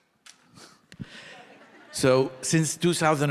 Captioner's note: audience laughing